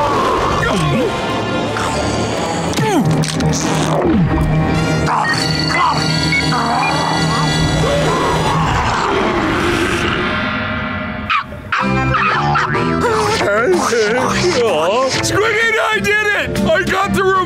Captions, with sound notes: [gulping] [roaring] [barking] [giggling] Aww... Squidina, I did it. I got the remote.